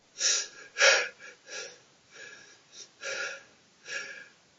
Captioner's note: crying